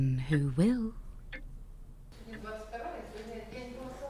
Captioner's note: hospital ambience